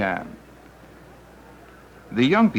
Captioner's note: city noise